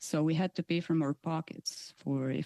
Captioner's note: speaking French